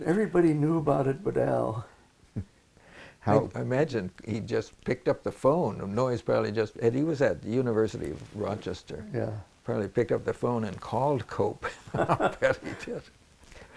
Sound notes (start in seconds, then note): 11.7 laughter